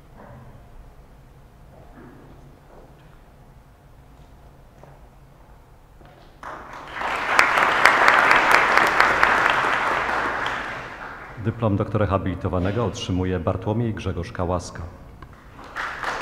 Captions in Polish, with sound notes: [oklaski] Dyplom doktora habilitowanego otrzymuje Bartłomiej Grzegorz Kałaska.